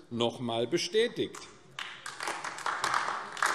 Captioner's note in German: Beifall AfD